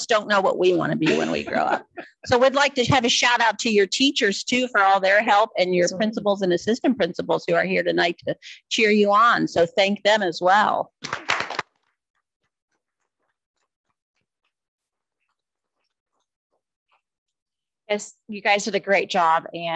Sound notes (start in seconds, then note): 11.0 audience applauding